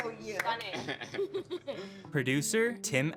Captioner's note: both laughing